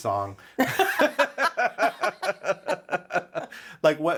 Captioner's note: both laughing